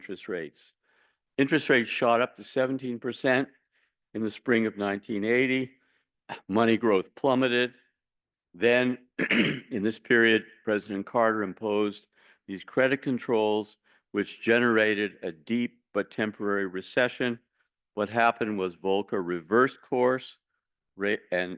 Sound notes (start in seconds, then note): 9.1 cough